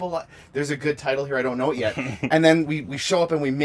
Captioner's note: laughs